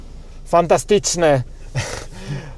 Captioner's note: says fantastic in Polish